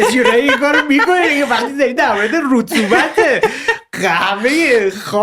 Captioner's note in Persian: خنده